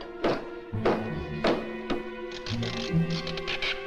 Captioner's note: nail Squeaking